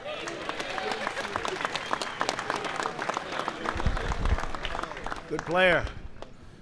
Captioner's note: applause